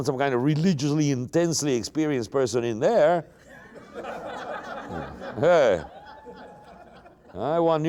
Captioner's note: laughter